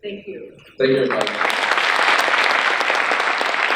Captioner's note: crowd applauding